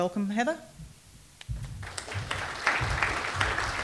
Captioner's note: applause